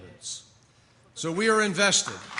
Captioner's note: applause